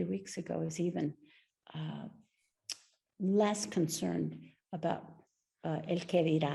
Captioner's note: speaks Spanish